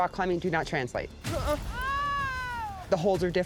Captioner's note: woman screaming